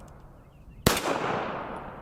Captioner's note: pistol fires